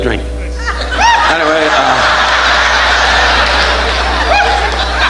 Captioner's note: audience laughing